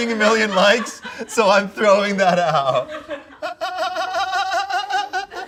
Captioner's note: laughs